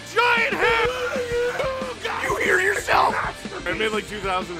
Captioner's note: Harry potter screaming; screaming